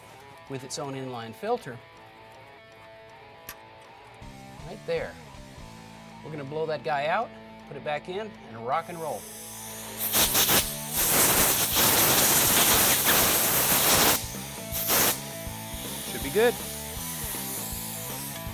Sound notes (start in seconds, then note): 10.0 music and air blower sound